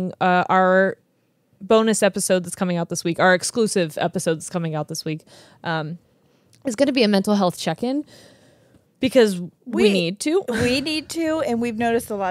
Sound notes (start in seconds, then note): none